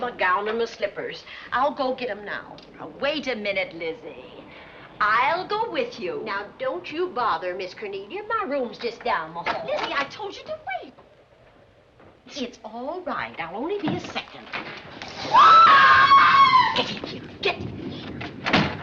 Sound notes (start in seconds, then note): 15.2 scream